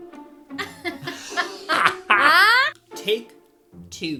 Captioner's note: both laugh